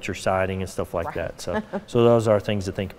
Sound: laughing

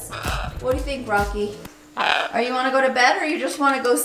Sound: Rocky squawks

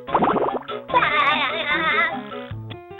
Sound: laughing

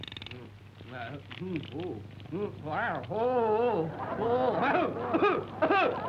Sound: public pest no. 8 muttering; public pest no. 8 coughing

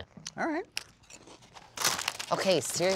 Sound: chip bag crinkles

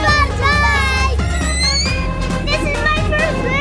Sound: squeals

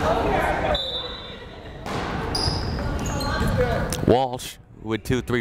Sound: whistle blowing

